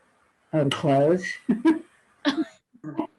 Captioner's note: laughs